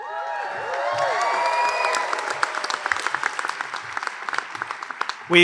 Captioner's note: hoots and hollers